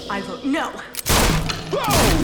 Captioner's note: gunshots